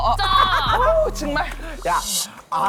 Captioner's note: laughing